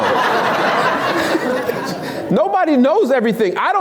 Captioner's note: laughs